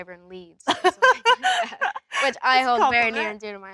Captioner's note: Elle laughs